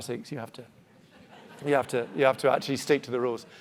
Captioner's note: audience laughing